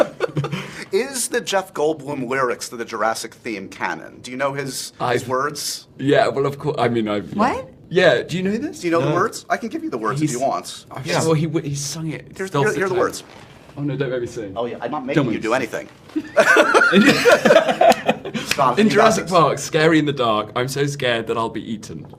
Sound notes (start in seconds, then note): 16.1 laughter